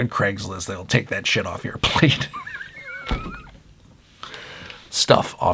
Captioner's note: laughing